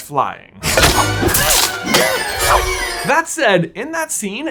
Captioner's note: Neville grunting